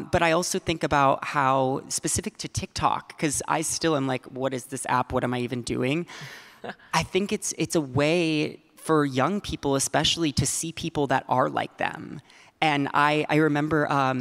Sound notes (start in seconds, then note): 6.6 laughing